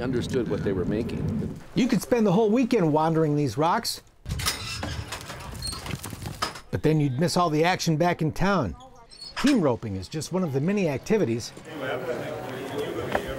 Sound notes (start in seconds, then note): 4.3 gate squeaks; 5.0 hooves beating the ground